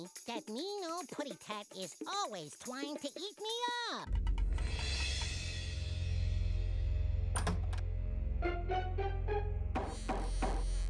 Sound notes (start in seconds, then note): none